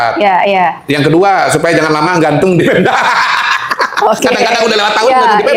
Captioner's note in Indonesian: tertawa